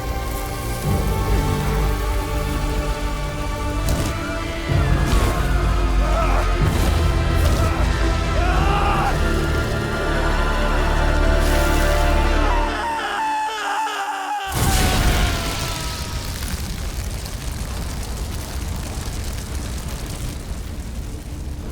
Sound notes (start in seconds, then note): 0.2 hands sizzling; 8.1 screams; 9.1 yells; 12.3 screams; 14.5 fire exploding; 16.9 fire crackling; 21.5 fire continues crackling